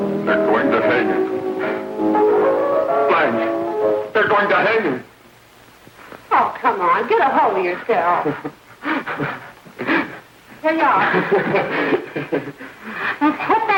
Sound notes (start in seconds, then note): 8.2 sobbing; 10.9 sobbing and laughing